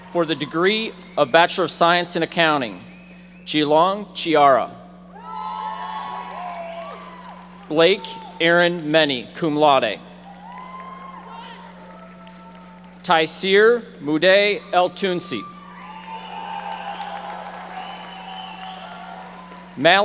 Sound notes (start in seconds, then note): 0.0 audience cheering; 5.1 audience cheering; 10.1 audience applauding; 15.5 audience applauding